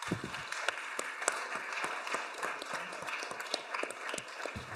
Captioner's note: audience applauding